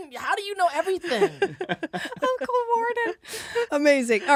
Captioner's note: laughing